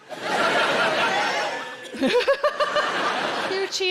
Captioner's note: audience cheering